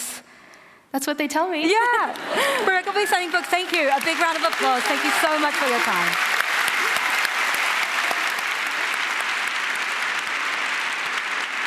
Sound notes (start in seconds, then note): 2.1 laughter; 10.9 applause